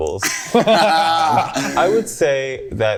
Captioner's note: group laughing